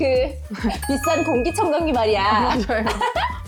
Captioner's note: emphasizing sound effect